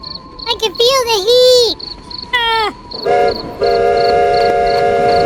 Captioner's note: screaming